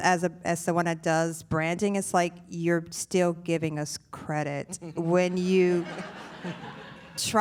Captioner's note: laughter